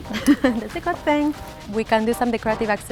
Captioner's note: laughing